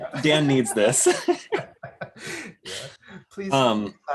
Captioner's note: laughs